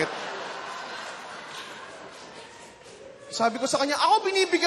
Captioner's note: laughter